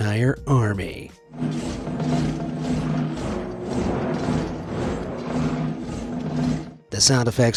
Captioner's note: footsteps thuds, metals clanks